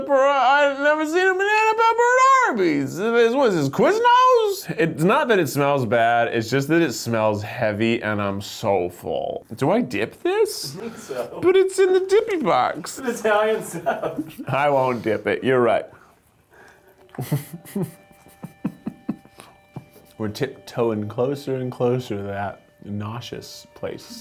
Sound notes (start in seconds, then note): 17.0 laughing